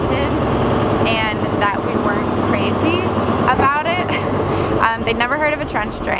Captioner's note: chuckles